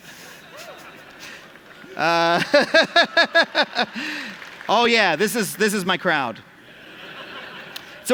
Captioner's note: laughter